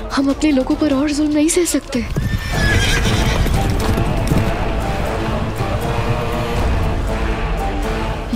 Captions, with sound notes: I can't bear more injustice on my people. [horses neighing and galloping]